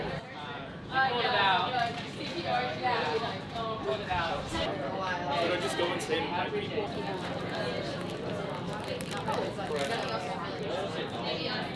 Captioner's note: chatter